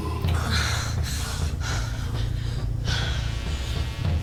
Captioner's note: woman moaning